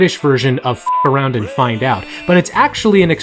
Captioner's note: beep